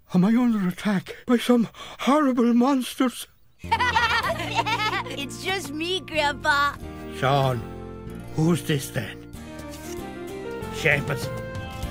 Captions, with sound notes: Am I under attack by some horrible monsters? (laughter) - It's just me, Grandpa! - Sean! Who's this then? Seamus!